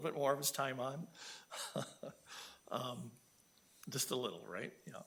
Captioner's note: laughing